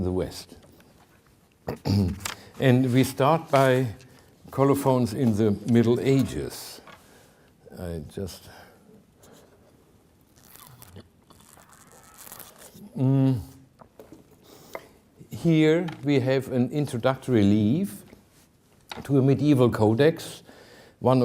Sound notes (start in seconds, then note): 1.6 clears throat; 9.3 drinking coffee